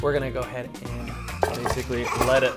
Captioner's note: laughing